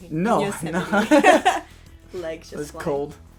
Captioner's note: laughter